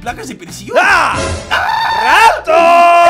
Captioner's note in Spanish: Grita